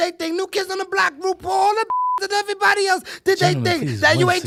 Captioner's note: beep